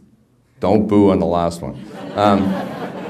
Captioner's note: background laughter